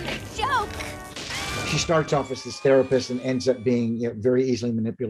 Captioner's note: Harley screams